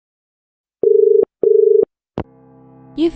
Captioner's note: dial tone